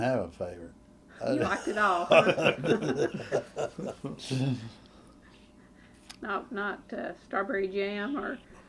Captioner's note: laughter